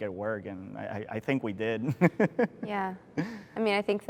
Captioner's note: laughs